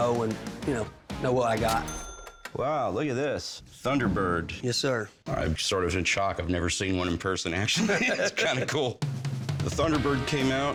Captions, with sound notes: it out because then I'd actually know, you know, know what I got. [cash register dings] Wow, look at this, Thunderbird. Yes, sir. I'm sort of in shock. I've never seen one in person, actually. It's kind of cool.